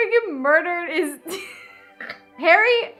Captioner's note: laughs